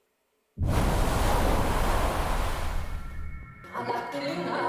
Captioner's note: waves rumbling; eerie music